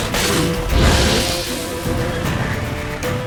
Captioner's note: flames whoosh